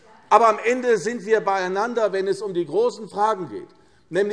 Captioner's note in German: none